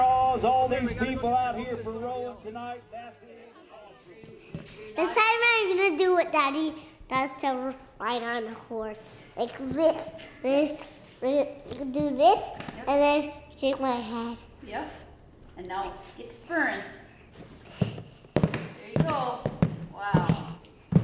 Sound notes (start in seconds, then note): 3.5 announcer fades out